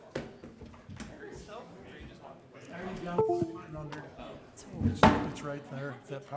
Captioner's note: board members chattering